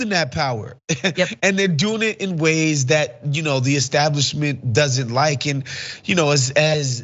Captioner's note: laugh